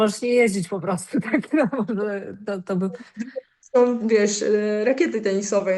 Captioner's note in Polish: śmiech